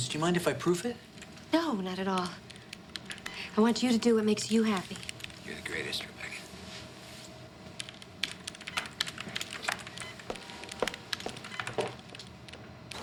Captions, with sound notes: Do you mind if I proof it? - No, not at all. I want you to do what makes you happy. - You're the greatest, Rebecca. (computer beeps)